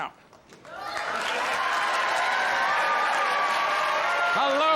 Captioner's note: audience cheers